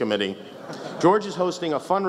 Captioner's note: laughs